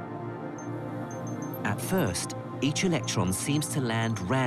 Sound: voiceover

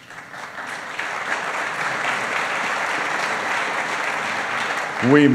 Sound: applause

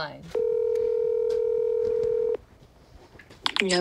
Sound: phone ringing

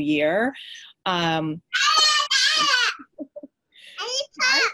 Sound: kid shouting

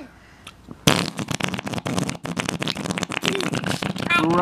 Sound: blowing sounds

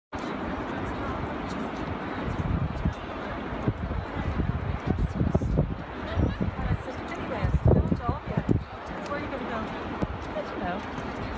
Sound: ocean sounds and indistinct chatter

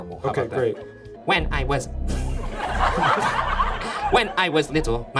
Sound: audience laughs; laughs

